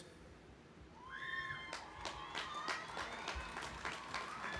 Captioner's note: cheering; audience applauding